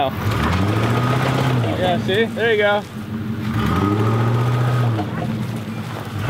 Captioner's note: engine revving